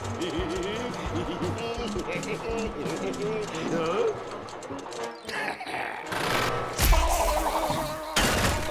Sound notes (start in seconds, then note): 5.3 growling; 7.0 blubbing